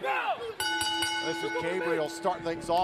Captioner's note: bell ringing